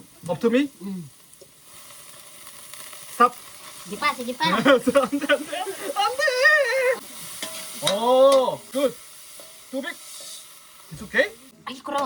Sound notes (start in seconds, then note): 6.3 speaking in Korean